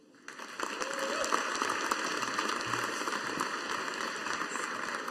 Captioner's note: audience applauding